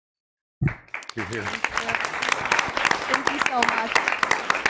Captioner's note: people clapping